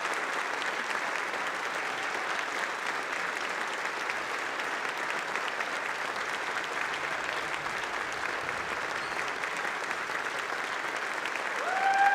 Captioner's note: applause